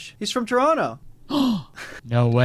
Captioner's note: Kurtis gasps